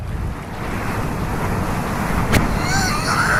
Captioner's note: game gets extremely loud